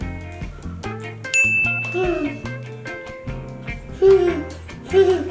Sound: laughs; bell dinging; laughs

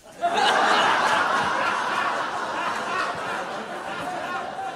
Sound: uproarious laughter

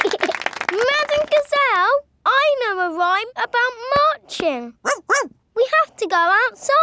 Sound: laughing and clapping; barks

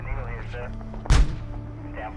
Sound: tank blasting

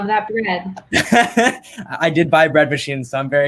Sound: laughs

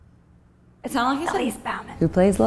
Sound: whispering

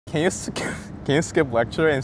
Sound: laughs

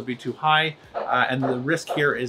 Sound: dog barking

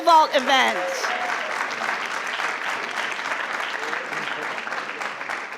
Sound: crowd cheering and clapping

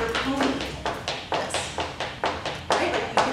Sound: shoes clanking

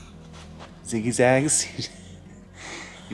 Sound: laughing

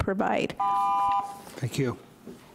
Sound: timer rings

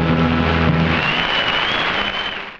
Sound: audience applauding

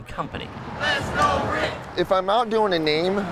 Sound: crowd

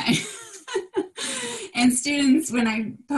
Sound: laughter

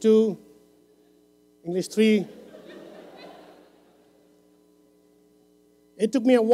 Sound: laughter

